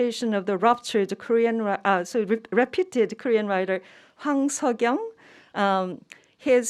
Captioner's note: speaking in Korean